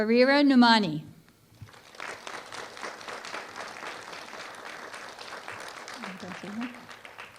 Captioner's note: applause